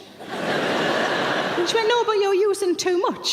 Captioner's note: audience laughs